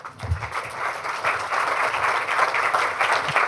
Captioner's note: applause